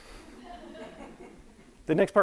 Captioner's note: audience laughing